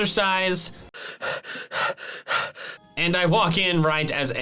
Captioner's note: pants